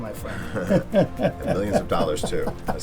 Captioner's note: laughing